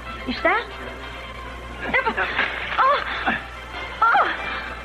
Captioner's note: gasps